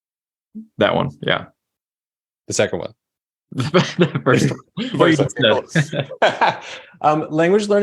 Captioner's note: laughing